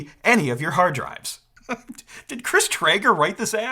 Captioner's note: chuckles